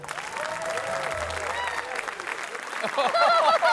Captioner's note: applause; laughter